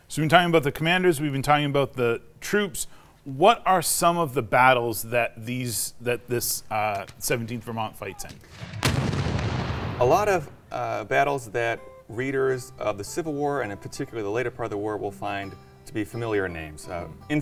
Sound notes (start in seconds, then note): 8.3 cannon fires